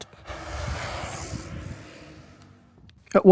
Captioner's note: sound of bike wizzing past as it comes down the hill